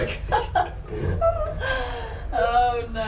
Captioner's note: laughter